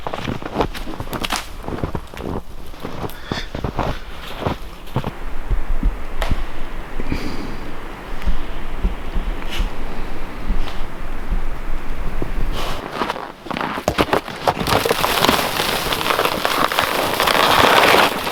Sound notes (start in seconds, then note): 0.2 snow crunching; 12.9 snow crunching